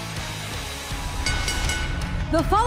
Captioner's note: bell ringing